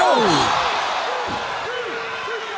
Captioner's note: crowd cheering